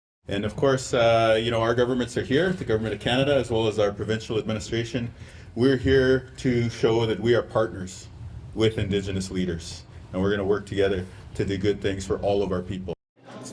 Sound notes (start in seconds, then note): none